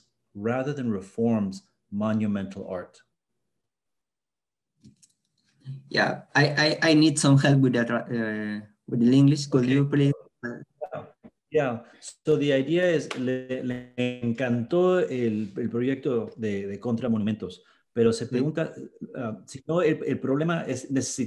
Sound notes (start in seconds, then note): 13.7 speaking spanish